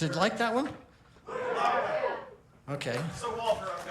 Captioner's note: cheering